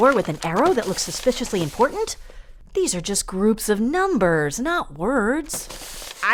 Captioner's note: sounds of paper unfolding